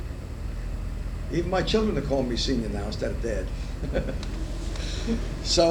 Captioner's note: laughs